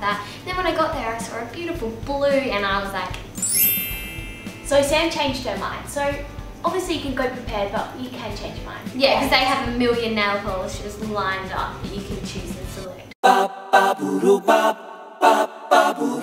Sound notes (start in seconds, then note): 3.4 chimes; 13.4 acapella music